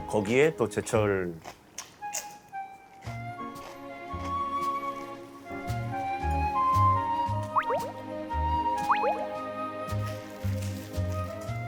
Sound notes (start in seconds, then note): 8.8 plop